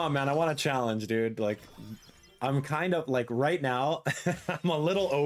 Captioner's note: laughing